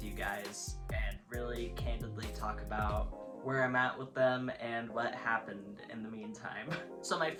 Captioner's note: laughs